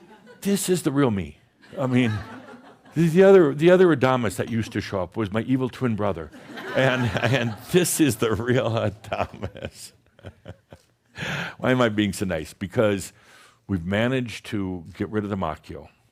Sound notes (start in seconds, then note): 1.7 some chuckles; 6.4 more chuckles; 8.9 chuckles